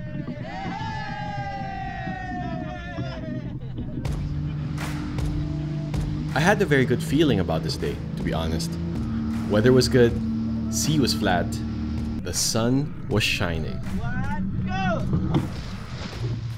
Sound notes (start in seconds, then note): 0.1 boat crew and divers shouting excitedly